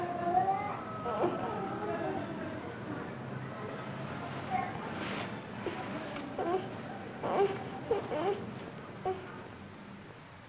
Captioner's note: whimpering